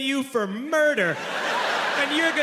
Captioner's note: audience laughing